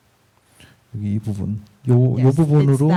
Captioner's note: speaking korean